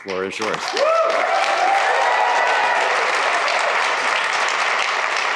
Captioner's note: cheers, applause